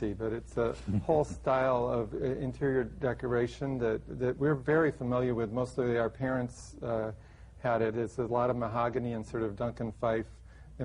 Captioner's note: laughter